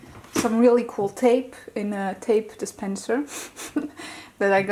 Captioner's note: laughs